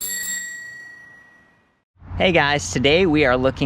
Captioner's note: bike bell dings